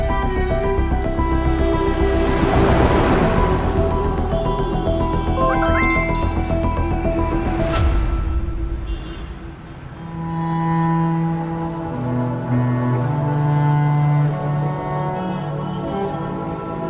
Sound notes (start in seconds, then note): 1.3 engine whirring; 5.4 phone rings